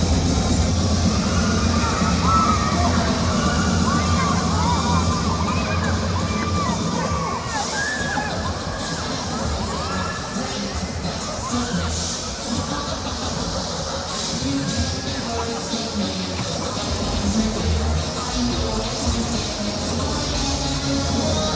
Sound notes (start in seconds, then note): 7.9 laughs